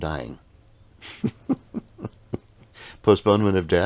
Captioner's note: laughing